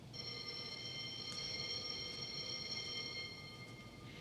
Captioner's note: bell rings